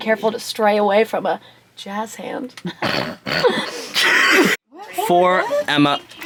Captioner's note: all laugh